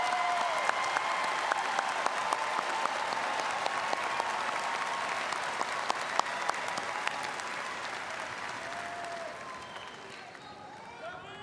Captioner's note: applause